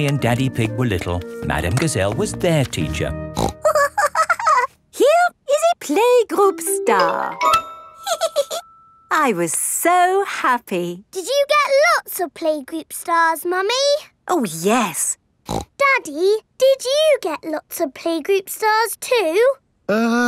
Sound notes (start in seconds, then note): 3.4 snorts and giggles; 8.0 giggles; 15.7 snorts